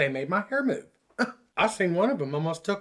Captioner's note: scoffs